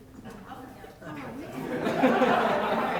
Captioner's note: laughter